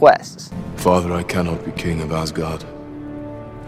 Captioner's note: Thor speaking